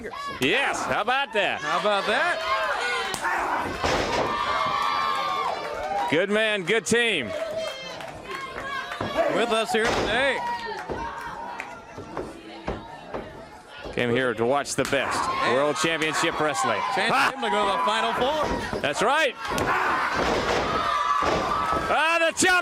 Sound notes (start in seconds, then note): 3.9 crowd cheering